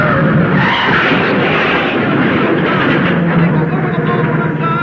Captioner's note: tires squealing; cars crashing